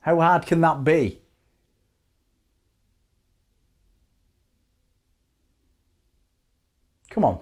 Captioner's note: silence